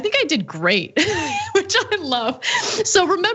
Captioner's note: laugh